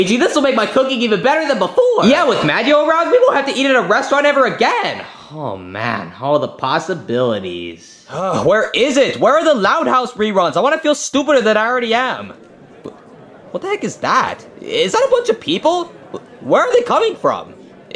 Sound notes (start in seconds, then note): 7.9 Luigi groaning; 12.4 people chattering